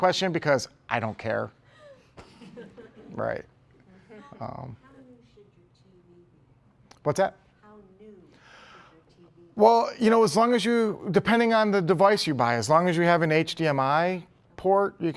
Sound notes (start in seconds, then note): 1.7 laughter